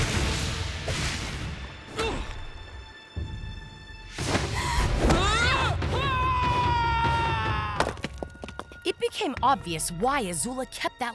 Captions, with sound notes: [screaming] It became obvious why Azula kept that letter.